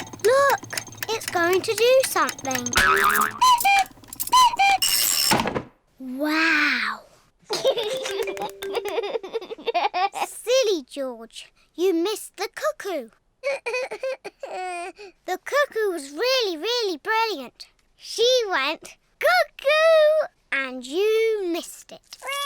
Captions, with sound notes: Look! It's going to do something! (CLOCK CUCKOOS) Wow! (LAUGHS) Silly George! You missed the cuckoo! -(SOBS) -The cuckoo was really, really brilliant. She went, "Cuckoo!" and you missed it.